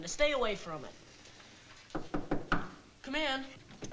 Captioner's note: knocking